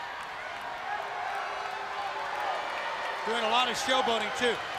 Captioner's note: crowd cheering